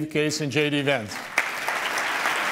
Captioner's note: applause